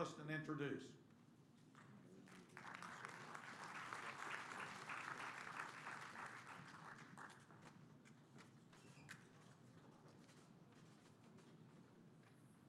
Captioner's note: applause